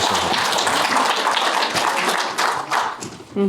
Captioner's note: applause